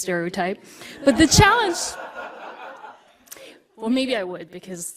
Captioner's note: audience laughter